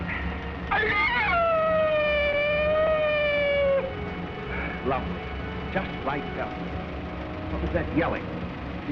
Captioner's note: screeches